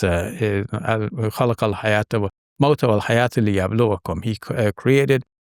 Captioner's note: speaks Arabic